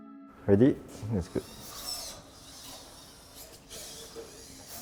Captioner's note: robots whirring